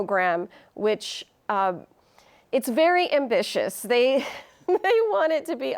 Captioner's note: chuckles